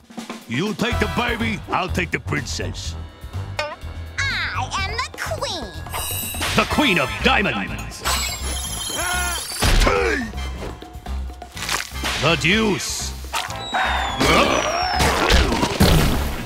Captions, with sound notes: You take the baby, I'll take the Princess. I am the queen. [screaming] Hey! [screaming]